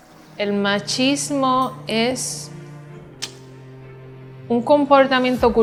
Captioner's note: speaking in a foreign language